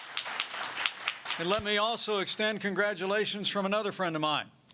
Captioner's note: applause